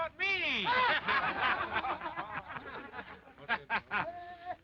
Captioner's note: laughter